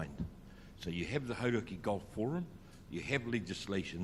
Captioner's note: speaks in foreign language